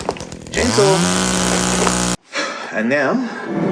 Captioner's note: chainsaw roaring